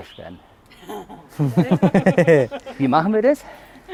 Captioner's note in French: Rires